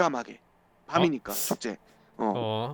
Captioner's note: sniffles